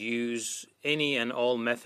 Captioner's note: speaking French